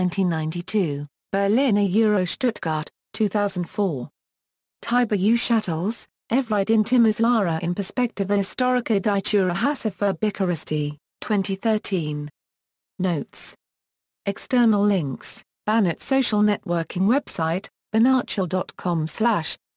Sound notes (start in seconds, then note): 2.2 German; 7.9 German